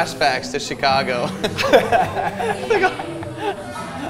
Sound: both laugh

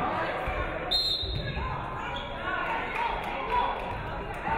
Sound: referee whistles

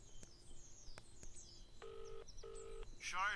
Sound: phone rings

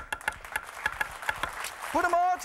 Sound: clapping

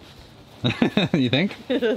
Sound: laughs

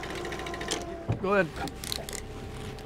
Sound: trolling motor humming; reel spinning

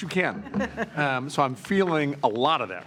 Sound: trustees chuckling

